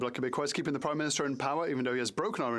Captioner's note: speaking French